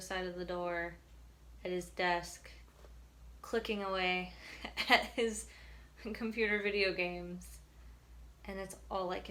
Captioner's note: laughs